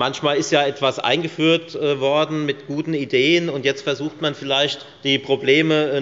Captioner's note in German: none